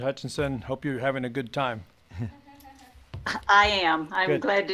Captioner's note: giggles